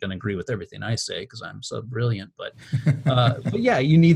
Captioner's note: laughs